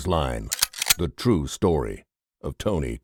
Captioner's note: camera clicking